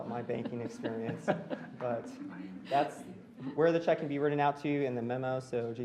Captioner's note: laughter